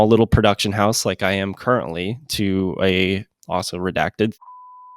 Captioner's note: beep